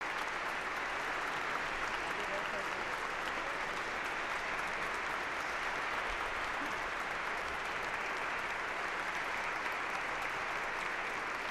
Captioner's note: applause